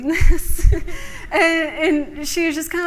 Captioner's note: laughter